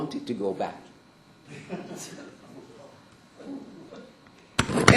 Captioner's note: laughter